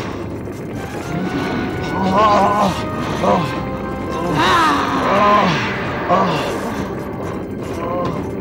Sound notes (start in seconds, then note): 1.0 groans; 4.3 groaning; 4.3 grunting